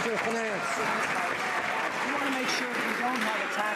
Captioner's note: some Applause